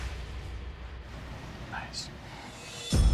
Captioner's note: whispers